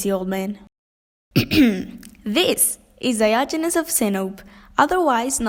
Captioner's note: clears throat